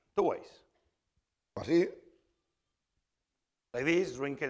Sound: speaking spanish

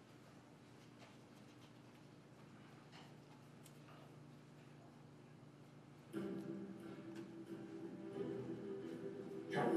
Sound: videos playing

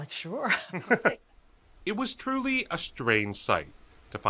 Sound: chuckling

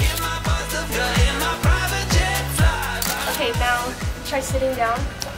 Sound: upbeat music; camera shutter clicks

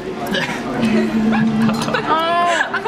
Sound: all laugh

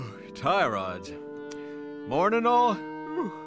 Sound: waking yawn

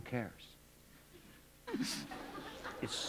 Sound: laughter

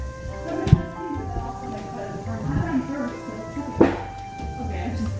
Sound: talking

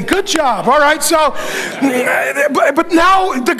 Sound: congregation laughing

